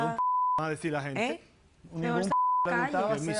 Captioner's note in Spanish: Bip; Bip